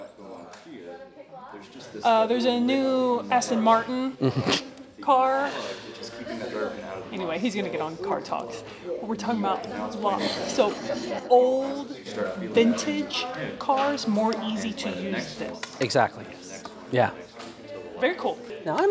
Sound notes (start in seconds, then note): 4.2 chuckles